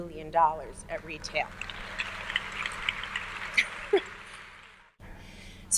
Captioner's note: audience applauds